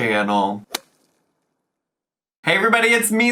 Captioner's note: logo thuds